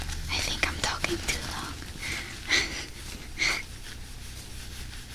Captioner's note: erasing sound